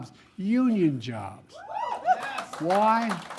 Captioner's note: applause